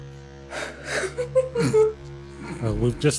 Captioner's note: giggles